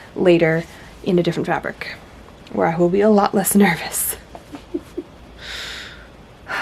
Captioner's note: sighs